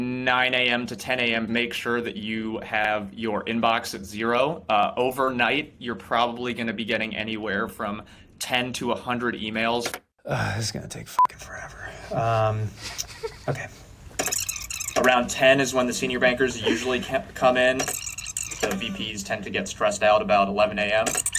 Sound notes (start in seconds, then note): 11.7 beep; 14.5 tape garbling; 17.9 tape garbling; 21.1 tape garbling